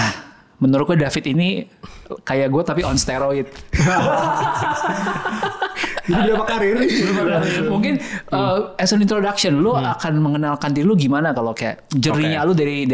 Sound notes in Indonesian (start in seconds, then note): 3.7 Tertawa